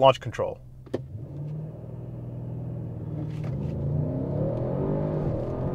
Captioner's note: car engine revving